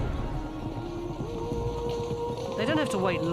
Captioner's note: hooves thundering